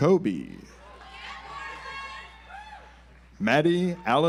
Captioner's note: audience applauds